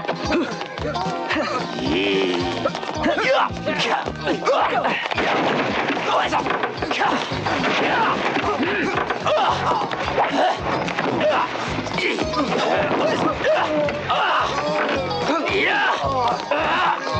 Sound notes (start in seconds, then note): 3.9 fighting intensifies